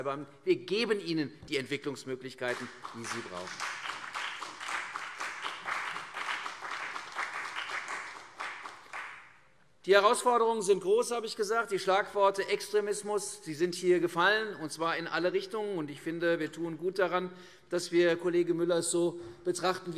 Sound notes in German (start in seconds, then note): 3.5 Beifall CDU und BÜNDNIS 90/DIE GRÜNEN